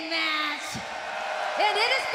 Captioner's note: cheers and applause